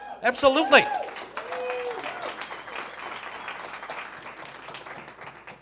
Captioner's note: audience cheering